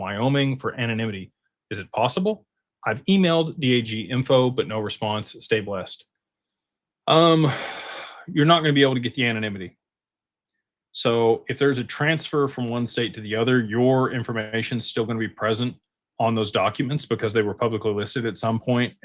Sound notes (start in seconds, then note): 7.2 sighs